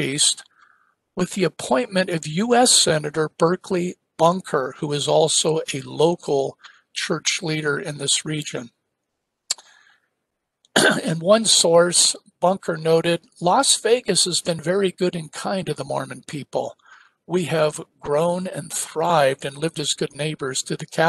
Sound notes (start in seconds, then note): 10.7 cough